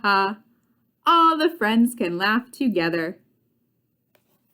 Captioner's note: closing book